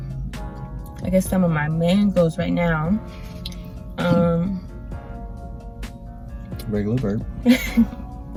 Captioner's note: regular burp